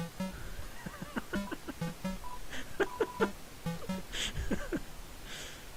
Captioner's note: quiet giggling